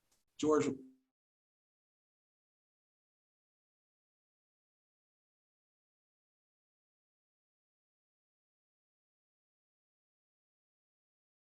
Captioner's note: audio cuts out